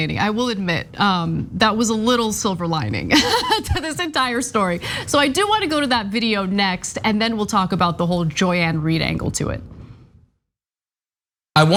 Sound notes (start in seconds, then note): 3.1 laugh